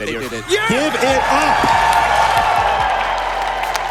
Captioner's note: crowd applauding